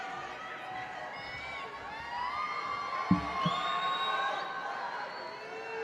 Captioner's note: audience cheering and applauding